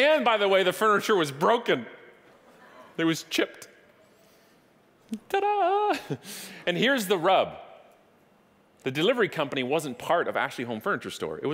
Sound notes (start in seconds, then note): 5.7 chuckling